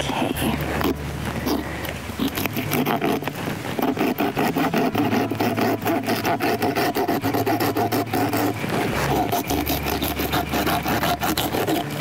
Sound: bone saw

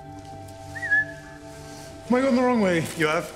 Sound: whistling

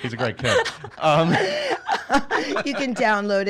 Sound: laughing

